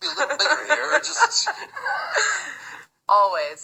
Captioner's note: both laughing; laughs